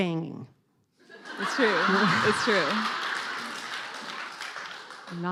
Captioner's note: laughing